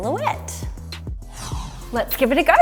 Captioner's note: whoosh